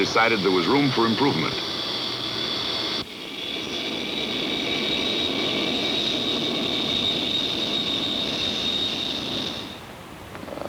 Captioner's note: jet engine